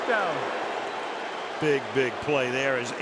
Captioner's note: booing